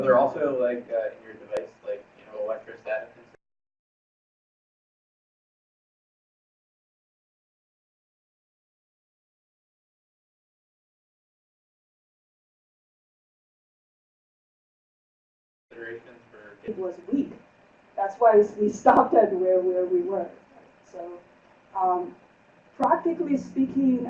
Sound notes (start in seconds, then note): 9.4 silence